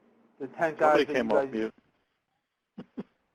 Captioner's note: laughter